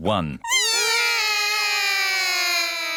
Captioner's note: all cry